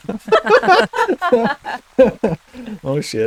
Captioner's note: laughter